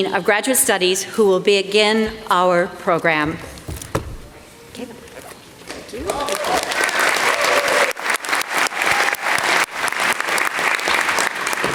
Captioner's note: applause